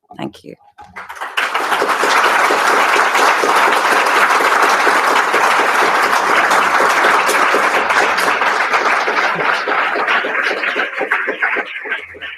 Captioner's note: applause